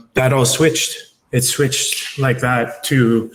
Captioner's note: fingers snapping